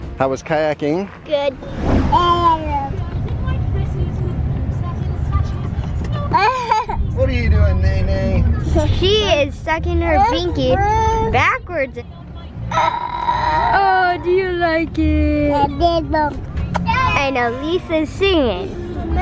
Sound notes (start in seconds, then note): 2.6 babbling; 6.3 laughs; 15.8 babbling